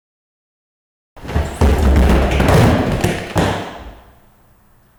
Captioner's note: falling noises